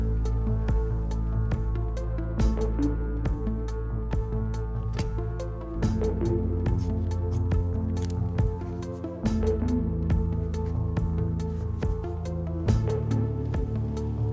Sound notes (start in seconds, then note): 6.5 scissors clicking